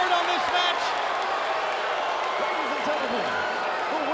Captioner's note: spectators cheering and applauding